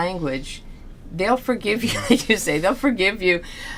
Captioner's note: laughs